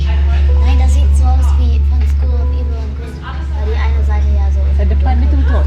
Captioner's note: speaking German